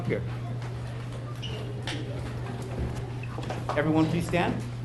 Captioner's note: people chattering